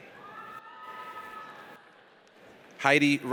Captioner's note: audience cheers